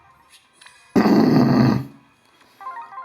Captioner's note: loud clearing of throat